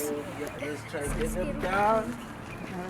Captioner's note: tourists chattering